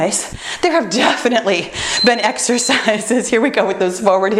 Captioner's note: timer beeps